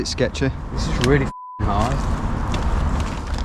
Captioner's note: beep